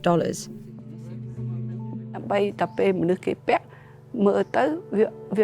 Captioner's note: speaking foreign language